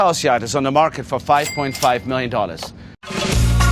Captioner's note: register rings; upbeat music